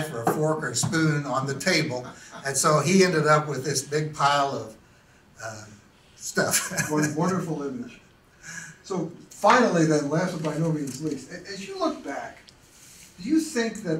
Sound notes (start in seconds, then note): 1.8 laughs; 6.4 laughs